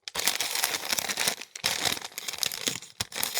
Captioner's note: paper crinkling